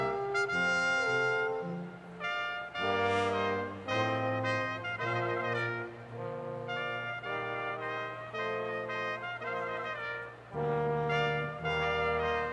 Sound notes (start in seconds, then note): none